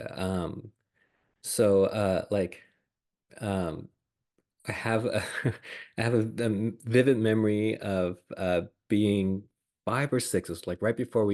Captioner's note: laughs